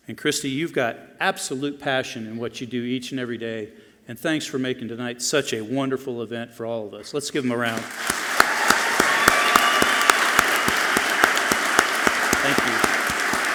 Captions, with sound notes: And Kristi, you've got absolute passion in what you do each and every day. And thanks for making tonight such a wonderful event for all of us. Let's give 'em a round. (audience clapping loudly) Thank you.